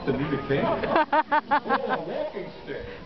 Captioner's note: laughs